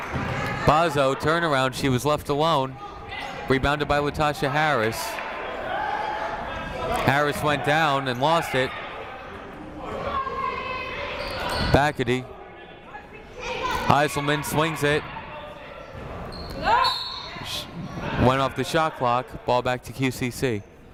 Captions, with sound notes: Bozzo turnaround, she was left alone, rebounded by Latasha Harris. Harris went down and lost it. Bachety, Heiselman swings it. (whistle blows) Went off the shot clock, ball back to QCC.